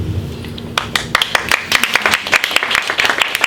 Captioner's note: clapping